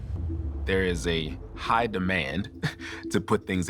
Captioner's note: chuckles